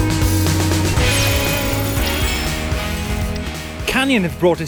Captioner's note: electronic zapping